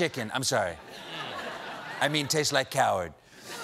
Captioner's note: laughter